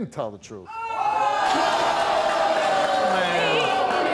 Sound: audience groans

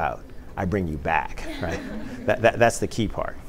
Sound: laughter

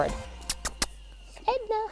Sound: kissing sounds

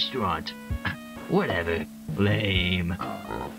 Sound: scoffs

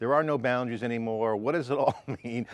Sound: chuckles

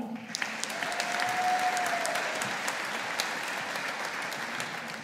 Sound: audience applauding

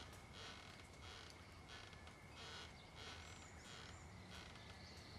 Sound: rocking chair squeaking

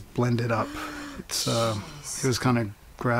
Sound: gasps

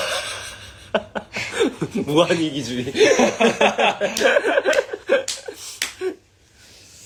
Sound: laughs

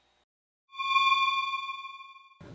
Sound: eerie space sound

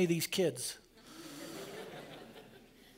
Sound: laughter

